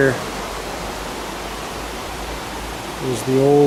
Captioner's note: water flows